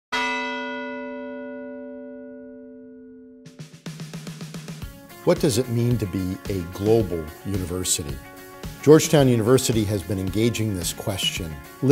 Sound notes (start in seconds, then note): 0.1 bell chimes; 3.8 energetic music